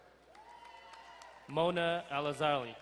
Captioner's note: distant cheering